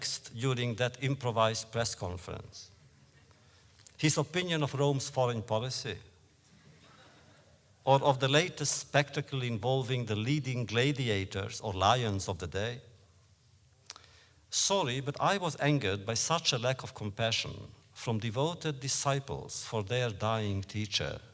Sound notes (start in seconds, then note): 6.6 laughter